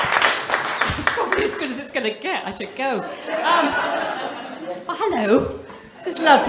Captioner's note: loud cheer